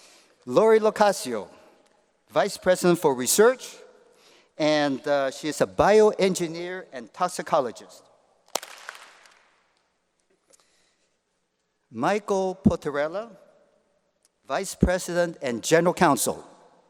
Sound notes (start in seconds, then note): 8.5 applause